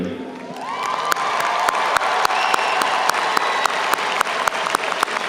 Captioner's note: audience cheers and applauds